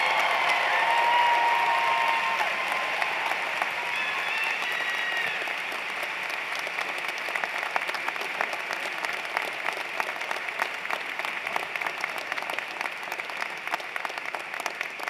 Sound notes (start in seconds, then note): 3.4 cheers and Applause